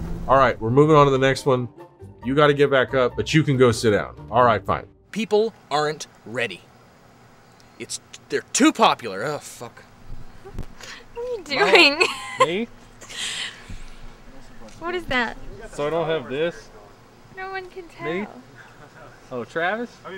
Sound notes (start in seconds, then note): 11.2 laughing